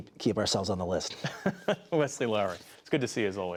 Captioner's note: laughter